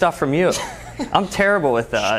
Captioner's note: laughs